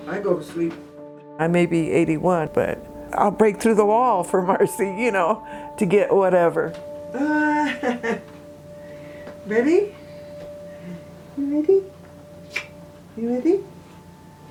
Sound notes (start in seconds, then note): 7.2 laughs